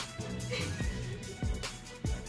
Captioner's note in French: Rire